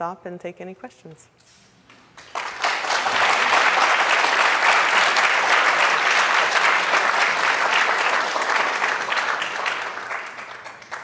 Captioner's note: applause